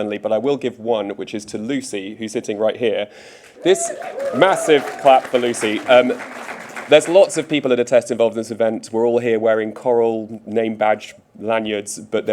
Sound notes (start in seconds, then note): 3.4 audience applauding